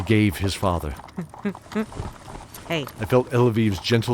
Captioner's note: gentle chuckle